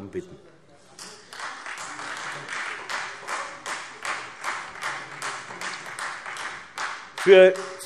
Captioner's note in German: Beifall Freie Demokraten